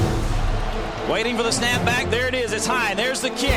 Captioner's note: dramatic music; voiceover